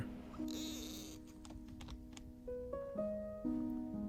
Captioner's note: kitten purring